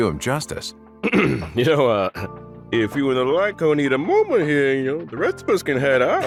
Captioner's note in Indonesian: Ehem